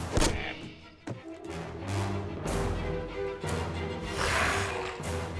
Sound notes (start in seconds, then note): 0.1 groans; 4.0 growls